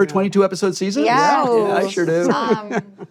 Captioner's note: laughs